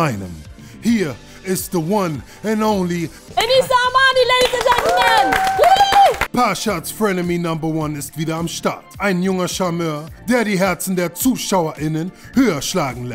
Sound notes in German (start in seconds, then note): 4.3 Jubelrufe